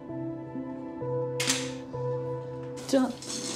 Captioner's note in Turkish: Kapı açıldı